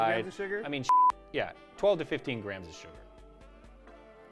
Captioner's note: beep